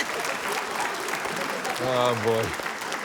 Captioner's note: applause